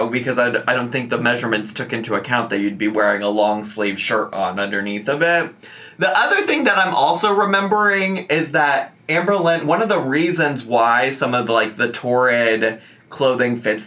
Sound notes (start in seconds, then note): none